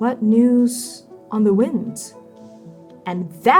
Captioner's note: none